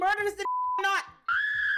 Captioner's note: beep